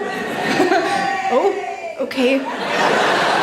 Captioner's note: audience cheers; audience laughs